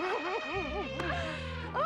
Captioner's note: elephant trumpeting